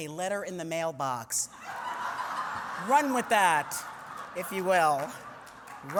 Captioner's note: laughter